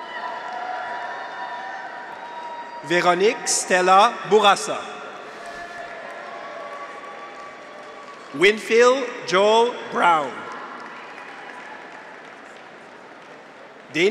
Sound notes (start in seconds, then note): 0.0 graduates cheer; 0.0 audience applauds; 5.0 graduates cheer; 5.5 audience applauds; 9.9 audience applauds